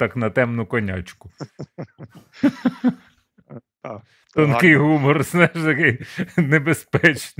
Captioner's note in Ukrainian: сміх